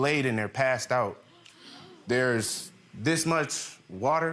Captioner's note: audience gasps